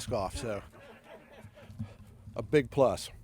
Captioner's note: laughing